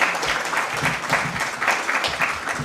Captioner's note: applause